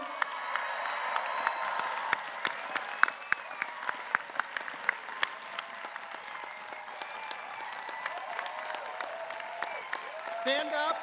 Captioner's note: applause